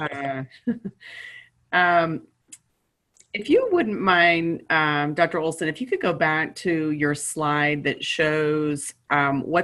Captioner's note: chuckles